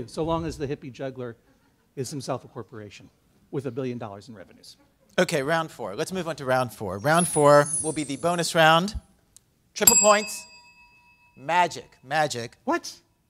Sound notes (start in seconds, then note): 4.8 laughter